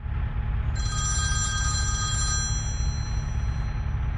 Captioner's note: phone ringing